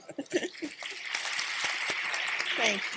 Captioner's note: applause